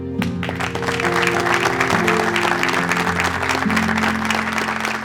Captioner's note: applause